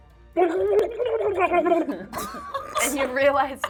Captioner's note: gurgling; laughing